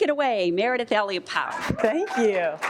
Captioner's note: applause